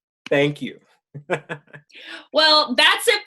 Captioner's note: laughs